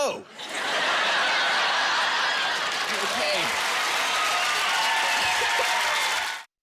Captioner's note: laughing